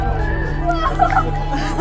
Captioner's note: cheering; laughing